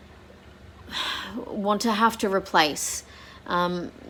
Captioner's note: sighs